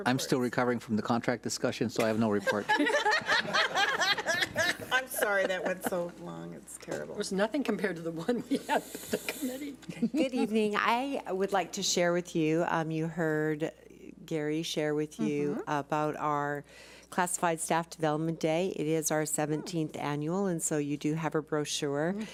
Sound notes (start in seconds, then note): 2.5 laughs